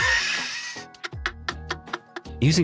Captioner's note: laughing